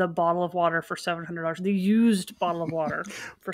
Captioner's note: laughs